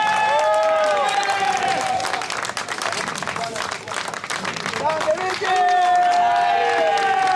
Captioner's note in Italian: Applauso